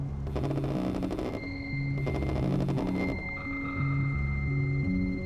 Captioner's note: cellphone vibrates